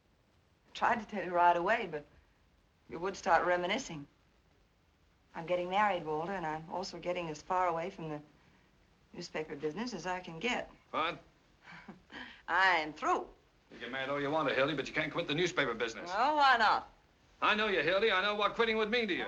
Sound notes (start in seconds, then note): 11.6 chuckles